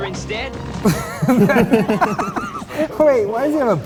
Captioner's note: laughing